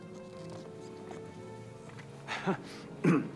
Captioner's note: footstep